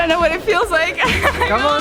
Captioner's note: nervous laugh